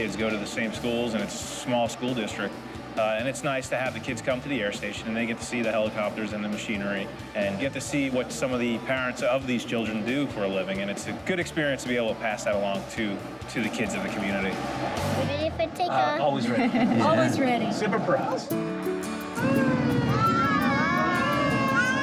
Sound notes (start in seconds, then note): 16.4 laughs; 18.4 inspirational music